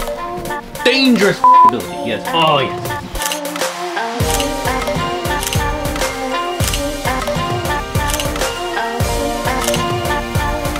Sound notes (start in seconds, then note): 4.2 camera clicking; 4.3 funky music